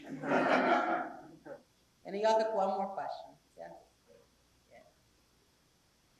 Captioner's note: laugh